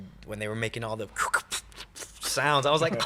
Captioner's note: imitates transformers